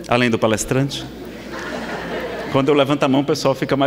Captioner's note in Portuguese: risadas